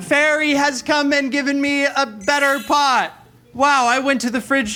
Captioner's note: chimes tinkling